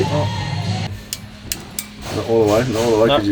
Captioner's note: clicking